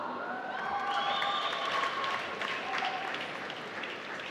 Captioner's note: applause